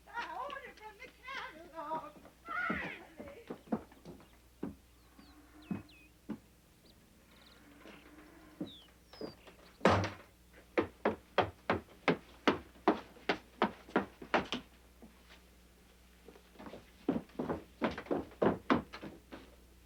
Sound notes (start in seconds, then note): 9.8 door slamming; 10.5 footsteps clomping